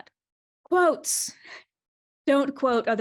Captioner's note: deep breath